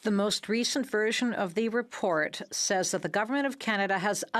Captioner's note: speaking in French